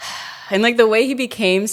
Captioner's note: sighs